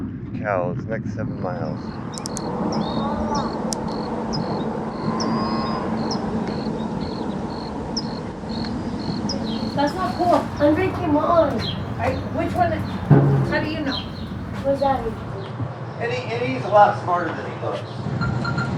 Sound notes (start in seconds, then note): 5.1 cow moos